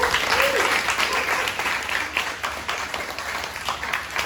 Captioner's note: audience applause